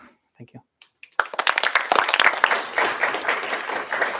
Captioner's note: applause